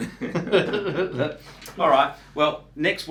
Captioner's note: both men laugh